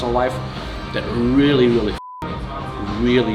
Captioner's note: beep